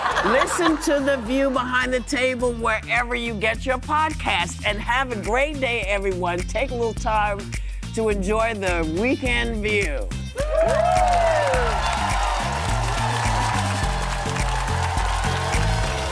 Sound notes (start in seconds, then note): 10.4 audience cheering; 13.5 upbeat music